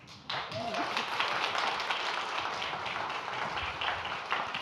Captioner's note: audience applauding